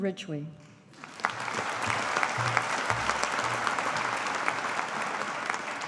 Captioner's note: audience applauding